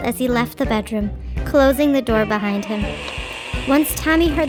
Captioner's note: door creaking